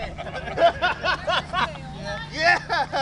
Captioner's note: laughing; laughs